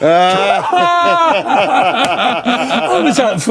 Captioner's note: laughing